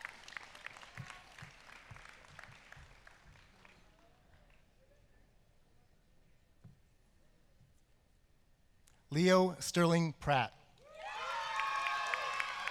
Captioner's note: applause